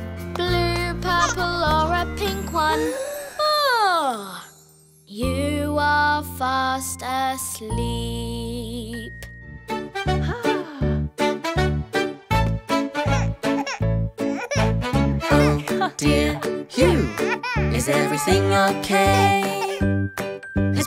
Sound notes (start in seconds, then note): 2.9 yawning; 9.8 lighthearted music; 14.3 cries